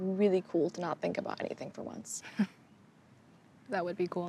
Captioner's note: chuckles